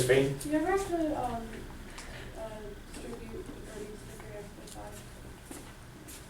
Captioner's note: voiceover